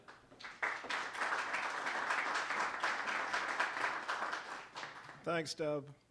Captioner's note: applause